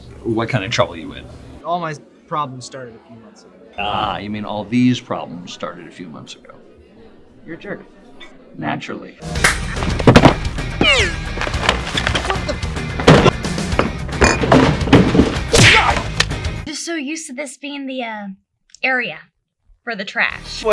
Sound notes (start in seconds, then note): 15.5 slap